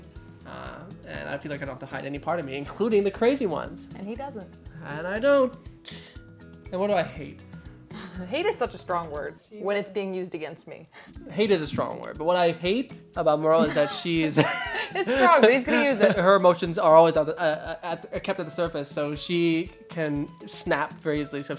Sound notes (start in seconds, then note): 13.6 both laughing